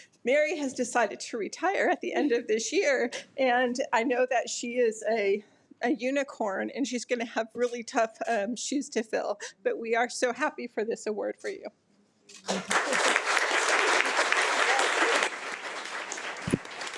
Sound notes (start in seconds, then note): 12.4 audience applauding